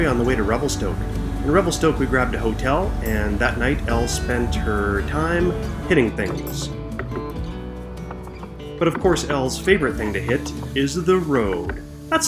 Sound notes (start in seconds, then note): 7.9 knocking